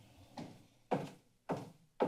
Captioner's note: footsteps